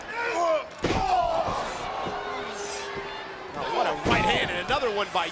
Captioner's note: crowd cheering